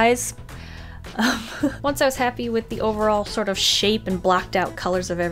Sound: laughs

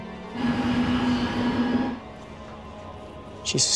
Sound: plane falling

